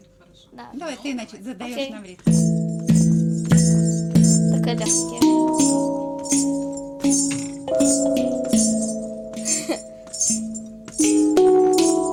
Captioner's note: laughing